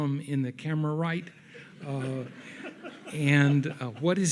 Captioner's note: audience laughs